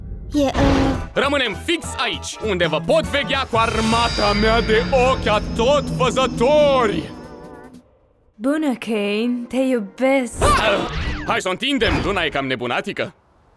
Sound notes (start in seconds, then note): 3.3 dramatic voice; 8.3 soft voice